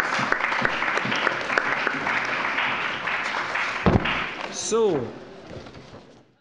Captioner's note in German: Allgemeiner Beifall